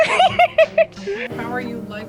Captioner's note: laughs